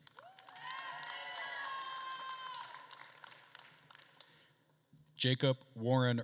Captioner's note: attendees cheering and applauding